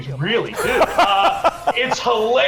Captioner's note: laughs